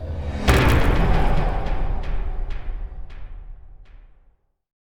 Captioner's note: impact